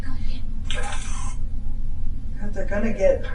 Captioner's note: EVP warbles